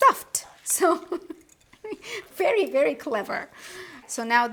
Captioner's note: laughs